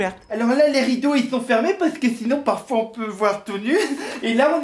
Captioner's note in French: Rires